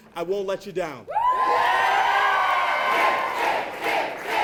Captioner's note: crowd cheers; crowd